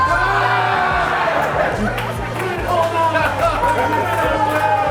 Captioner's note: crowd laughter